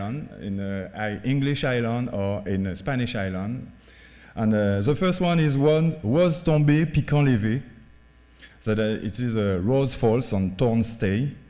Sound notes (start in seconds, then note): 6.2 speaking french